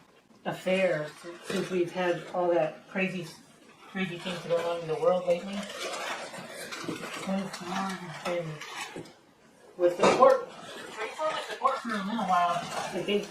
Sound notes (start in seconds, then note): 5.3 sound of manilla paper wrapping crinkling in the box